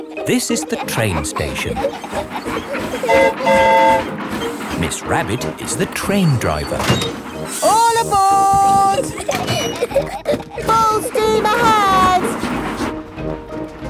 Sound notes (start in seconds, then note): 3.0 train whistle toots; 8.2 giggling